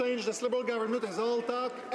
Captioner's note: some Applause